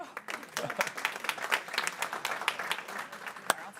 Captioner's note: people clapping